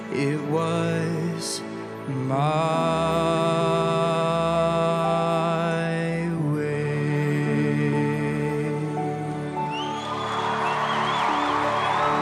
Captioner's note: applause